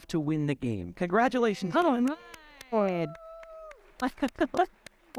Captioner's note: audience cheering